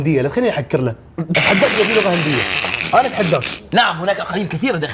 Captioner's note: laughs